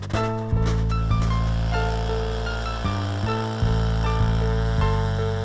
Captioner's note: drilling sound